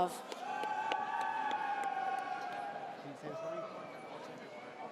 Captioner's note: audience cheers